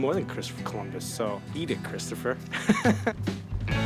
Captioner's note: laughing